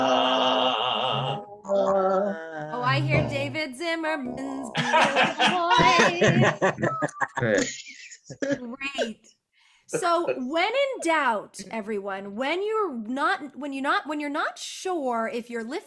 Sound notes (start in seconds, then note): 4.7 laughter